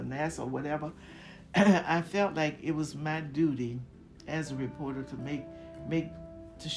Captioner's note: cough